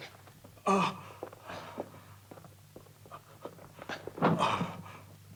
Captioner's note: Morgan continues gasping